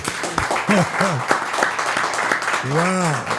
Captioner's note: crew applauds